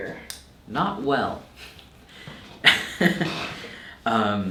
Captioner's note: laughing